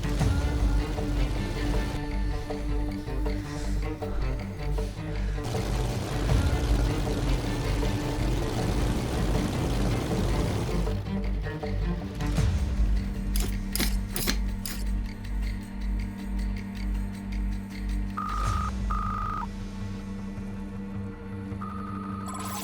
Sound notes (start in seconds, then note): 0.3 tense suspenseful music; 12.3 tense suspenseful music; 18.1 interface whirring